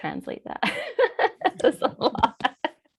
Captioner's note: laughing